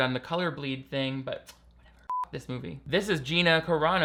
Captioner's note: beep